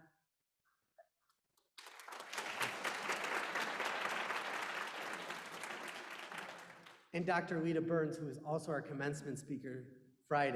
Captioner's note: applause